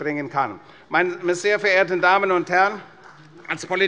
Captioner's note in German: Beifall bei der CDU